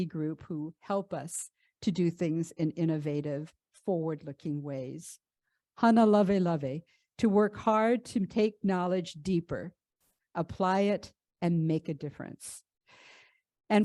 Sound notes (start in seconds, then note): 5.5 speaks in ʻŌleo Hawaiʻi